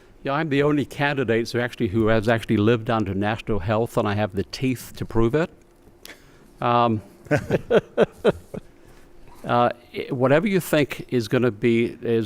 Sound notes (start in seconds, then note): 7.2 laughter